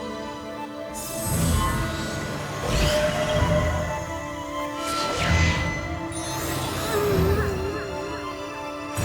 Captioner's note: zapping